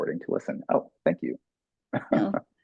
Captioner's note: laughing